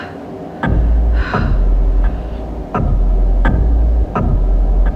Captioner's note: clock ticking loudly